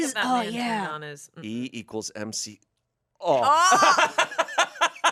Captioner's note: moans; everyone laughs